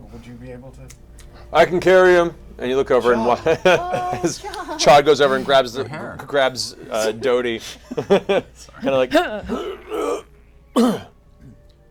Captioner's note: grunt